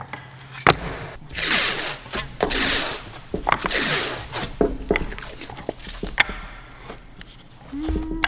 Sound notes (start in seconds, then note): 0.6 plastic wrap squelching